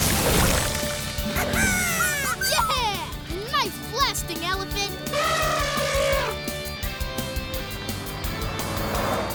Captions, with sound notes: [cheering] Nice blasting, elephant. [snorting]